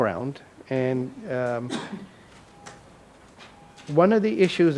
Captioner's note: audience member coughs